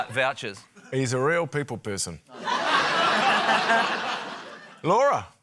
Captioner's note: laughter